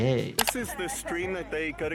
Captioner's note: mouse clicking